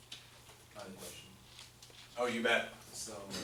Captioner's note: voiceover; voiceover